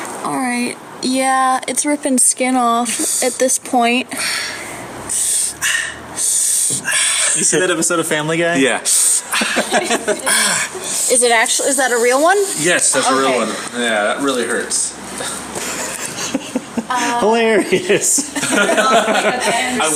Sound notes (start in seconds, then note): 4.1 inhales sharply through teeth; 9.3 inhales sharply; 15.2 giggles; 17.5 everyone laughs